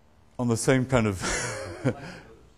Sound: laughs

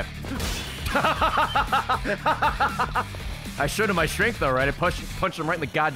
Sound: laughs

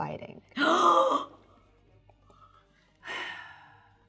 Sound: gasps

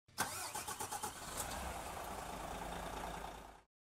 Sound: car engine starts

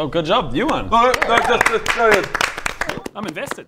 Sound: impressed applause

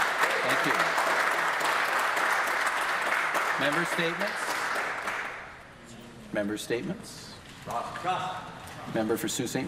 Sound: some Applause

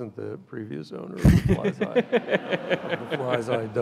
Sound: and audience laughs

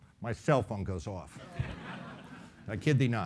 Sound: laughing

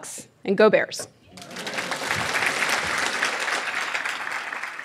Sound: clapping

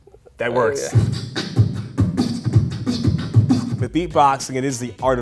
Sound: beatboxing

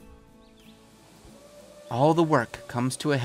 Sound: bird chirping

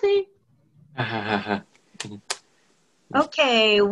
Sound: laughter

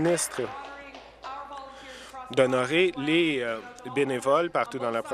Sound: applause

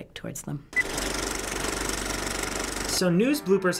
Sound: movie reel clicks

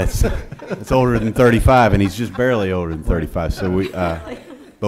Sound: laughing

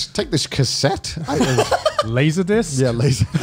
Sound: laughs

